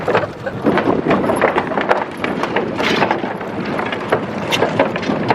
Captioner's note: wooden planks rattling; giggling